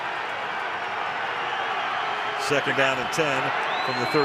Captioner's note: crowd cheering